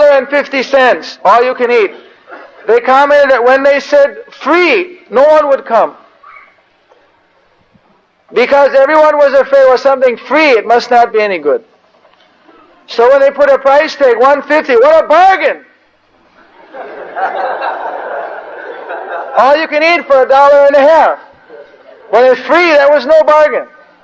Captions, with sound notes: dollar and 1 rupee...I am conditioned! 1 dollar and 50 cents, all you can eat. They come in. When they said free no one would come because everyone was afraid that if something is free, it must not be any good. So they put a price tag $1.50, ‘What a bargain!’ (devotees laugh) All you can eat for a dollar and a half! When it was free, there was no bargain.